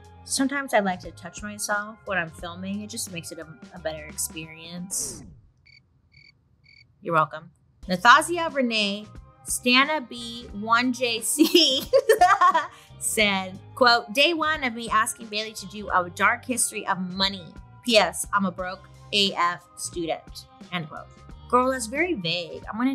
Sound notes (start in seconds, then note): 4.9 record scratches; 6.1 crickets chirping; 11.8 laughs